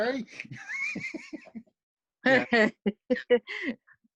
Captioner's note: giggles